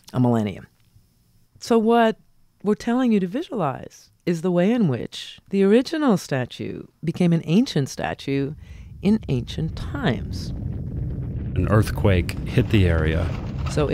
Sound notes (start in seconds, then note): 10.6 rumbling